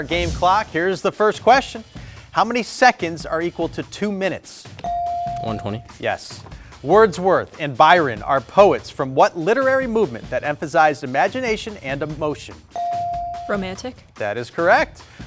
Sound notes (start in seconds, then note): 4.8 buzzer dings; 12.8 buzzer dings